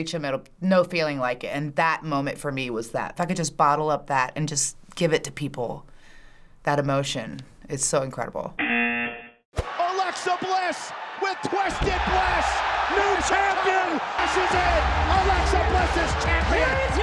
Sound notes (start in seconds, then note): 8.6 buzzer